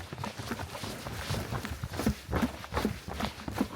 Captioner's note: sprinting sound